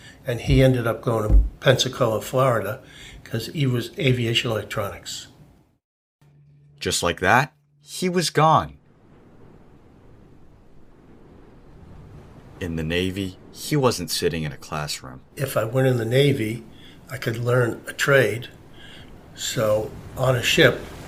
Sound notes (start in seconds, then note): 9.4 ocean waves fading in